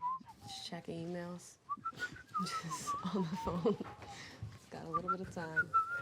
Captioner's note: laughs